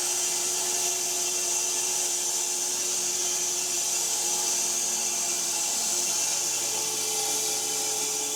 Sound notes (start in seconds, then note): 2.8 saw buzzing